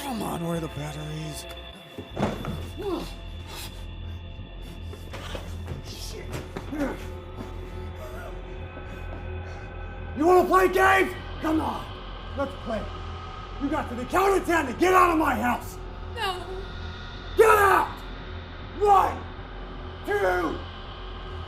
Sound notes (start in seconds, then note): 2.1 box thuds; 3.1 Kenny screams; 3.9 tense music; 8.0 laughs